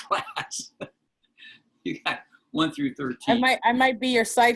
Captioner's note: laughter